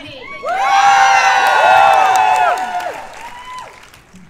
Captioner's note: cheers and applause